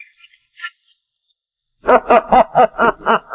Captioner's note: laughing